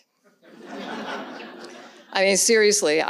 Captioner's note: audience laughs